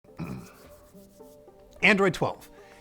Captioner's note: rubs hands